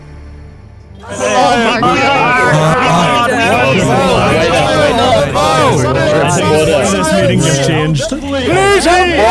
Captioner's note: chaotic chatter